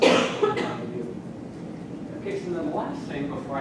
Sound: cough

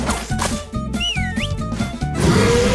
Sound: whistling

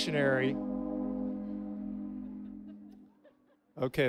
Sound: horn blares

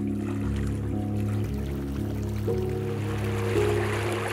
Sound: river sound

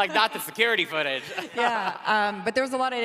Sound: laughing

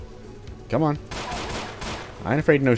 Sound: PEW x4

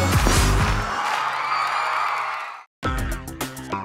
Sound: crowd cheering

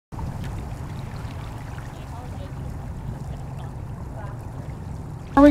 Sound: water running

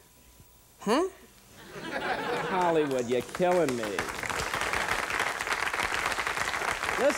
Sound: applause

